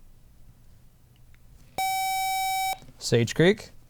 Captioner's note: buzzer